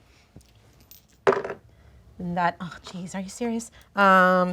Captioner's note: dice roll